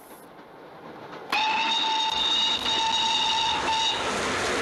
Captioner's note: train whistle